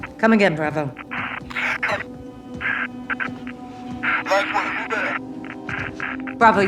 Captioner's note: static